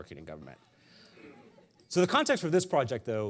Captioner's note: audience laughing